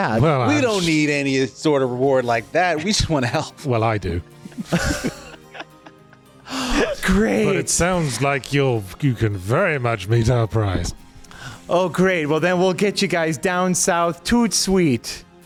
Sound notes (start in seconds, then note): 4.4 laughing